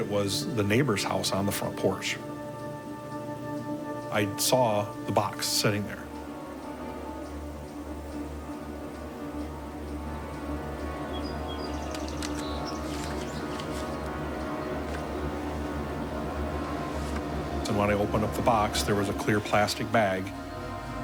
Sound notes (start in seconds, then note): 6.8 suspenseful music; 11.3 birds chirping